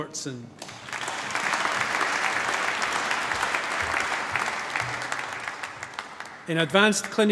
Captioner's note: applause